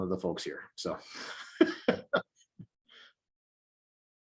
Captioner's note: chuckles